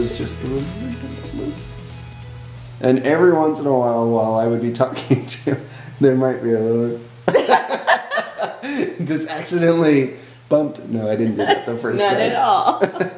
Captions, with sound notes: But it wasn't a kiss it was just, and every once in awhile while I would be talking too, there might be a little. (laughing) Just accidentally bumped, no I didn't do that the first time. - Not at all.